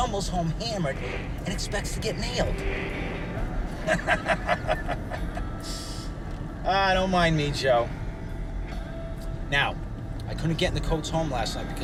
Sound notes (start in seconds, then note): 3.7 laughing